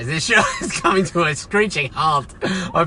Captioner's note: laughs